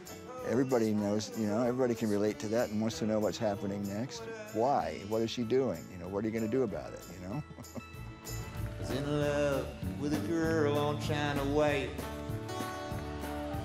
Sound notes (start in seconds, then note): 7.2 laughs